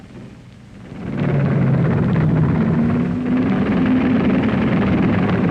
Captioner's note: engines rumbling